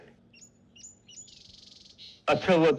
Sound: birds Chirping

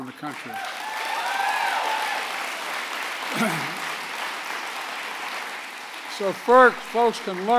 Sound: applause

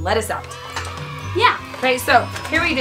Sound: children cheering

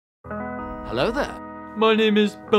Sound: Obi-Wan Voice

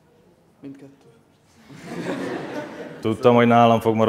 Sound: laughter

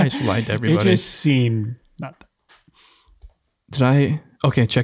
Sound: laughing

